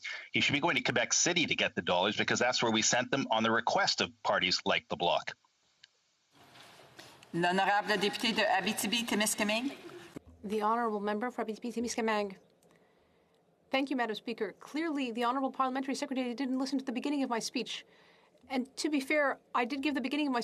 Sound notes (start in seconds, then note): 12.9 speaking in French